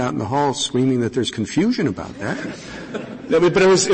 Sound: laughter

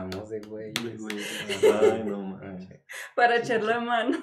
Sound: laughing & agreeing

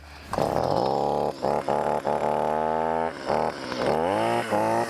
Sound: chainsaw revs

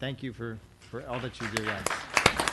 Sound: applause

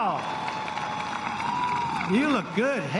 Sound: cheering and applause

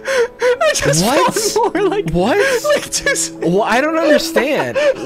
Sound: laughing

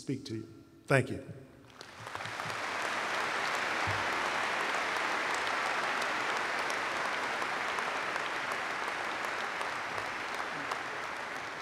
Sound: applause

